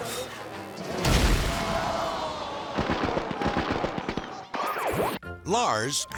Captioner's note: fire roars; crowd shouts